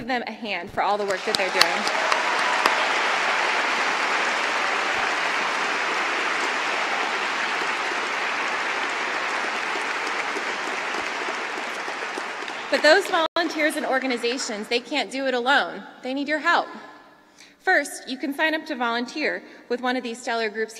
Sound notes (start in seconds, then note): 14.2 cheering